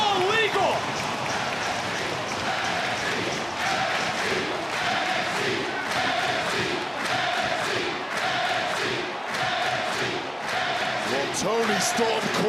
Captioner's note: crowd cheering